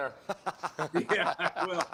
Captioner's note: laughter